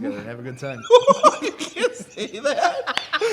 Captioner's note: laughs